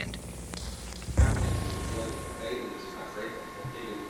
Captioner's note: radio feedback noises